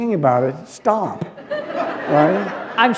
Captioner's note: laughter